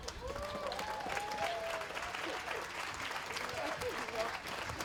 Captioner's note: applause